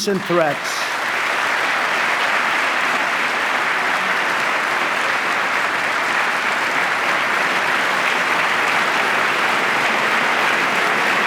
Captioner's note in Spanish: aplauso